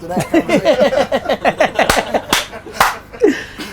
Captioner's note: group laughter